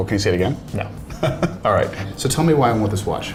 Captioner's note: laughing